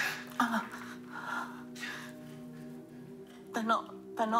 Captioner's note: Holly whimpering